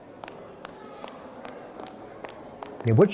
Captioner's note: footsteps fade; footsteps fade in